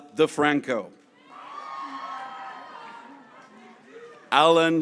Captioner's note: graduates cheering